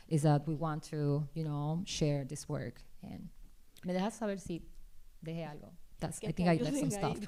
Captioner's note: speaking spanish